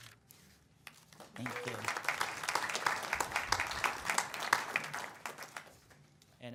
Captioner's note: audience applauds